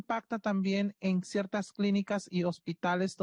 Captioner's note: speaking Spanish